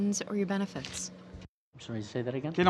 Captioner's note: speaking french